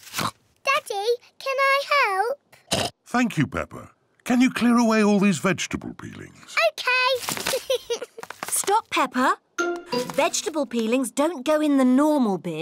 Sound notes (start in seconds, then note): 2.7 oinks; 7.5 giggles